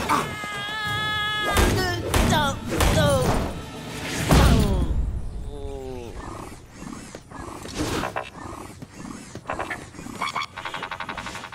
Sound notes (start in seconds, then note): 0.0 screaming; 1.3 groaning